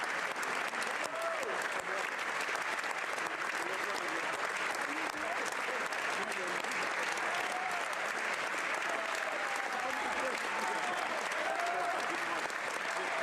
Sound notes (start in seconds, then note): 2.1 cheers